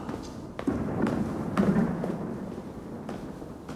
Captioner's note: thunder rumbling